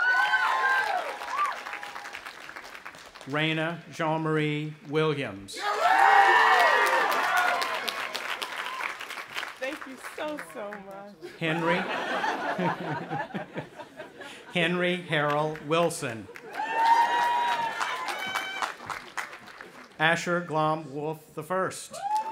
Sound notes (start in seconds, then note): 0.0 audience applauding and cheering; 5.6 audience applauding and cheering; 11.2 audience laughing; 16.3 audience applauding and cheering; 22.0 audience applauding and cheering